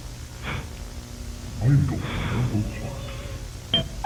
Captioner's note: panting bc the shrimpcredibles are in the other room